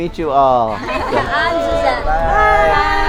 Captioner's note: people chatting